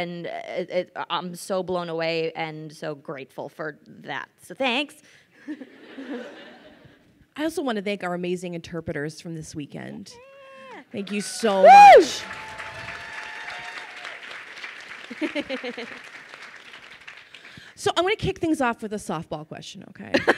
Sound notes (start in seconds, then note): 5.5 crowd laughs; 11.0 crowd cheers and applauds